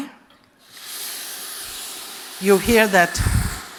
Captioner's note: sizzle